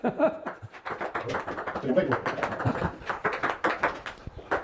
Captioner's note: ball hitting table